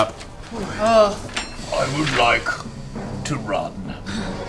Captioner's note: Grog voice